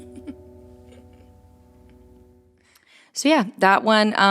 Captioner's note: chuckles